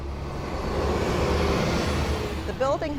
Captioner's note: bus engine hisses